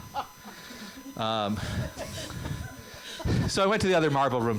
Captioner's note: laughter